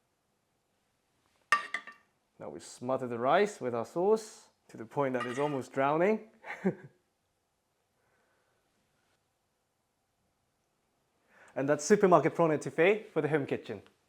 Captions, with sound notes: Now we smother the rice with our sauce, to the point that it's almost drowning. [chuckles] And that's supermarket prawn étouffée, for the home kitchen.